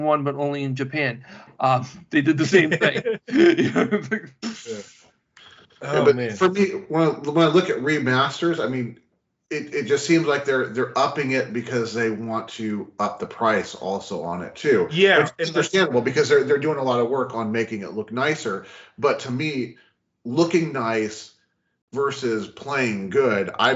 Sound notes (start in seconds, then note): 5.2 laughing